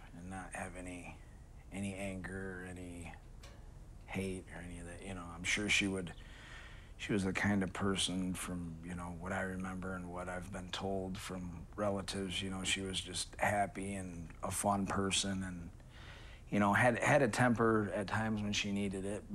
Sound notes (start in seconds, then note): none